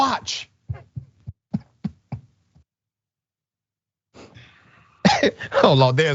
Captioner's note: laugh